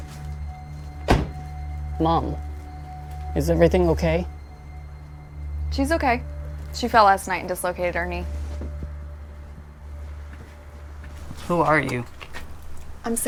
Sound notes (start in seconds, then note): 1.0 door thuds